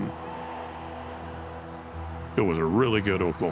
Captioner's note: crowd cheering